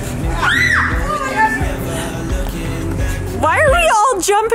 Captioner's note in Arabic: صراخ الفتيات